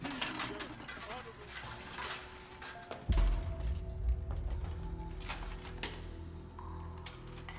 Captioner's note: armor clanking; gentle suspenseful music